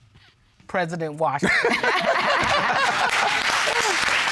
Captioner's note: all laughing